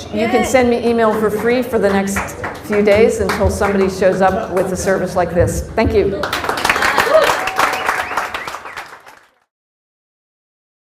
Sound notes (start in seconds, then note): 6.2 applause